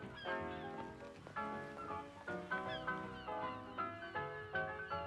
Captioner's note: seagulls squawk